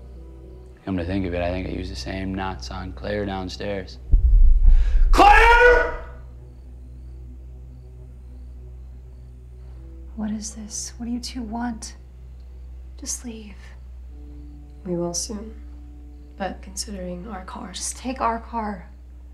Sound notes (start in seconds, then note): 4.0 tense music; 6.1 crickets chirping; 6.1 tense music